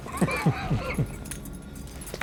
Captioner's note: chuckles